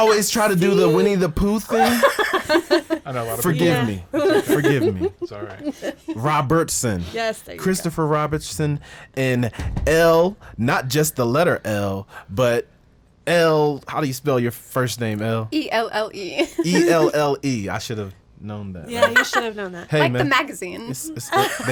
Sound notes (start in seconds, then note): 1.6 woman laughs; 16.2 laughs